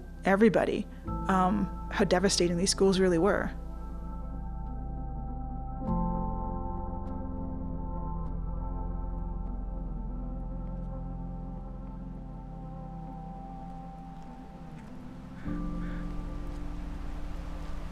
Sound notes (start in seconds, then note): 7.1 bird cawing